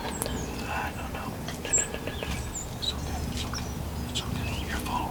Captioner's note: whispering